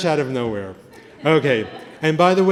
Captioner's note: laughter